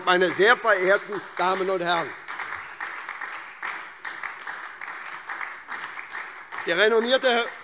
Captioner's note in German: Beifall